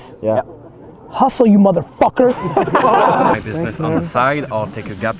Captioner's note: group laughter